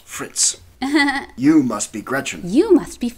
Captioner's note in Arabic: ضحك